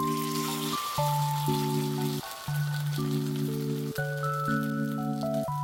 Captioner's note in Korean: 지글지글